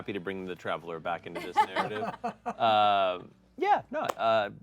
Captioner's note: laugh